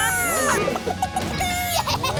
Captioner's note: clucking